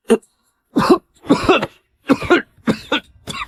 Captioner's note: cough, cough, cough